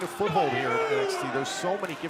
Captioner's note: crowd cheering